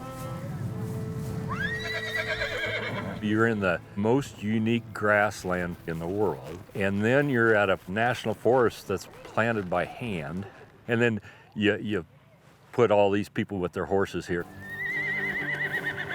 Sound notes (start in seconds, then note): 1.5 horse neighing; 1.9 dreary violin music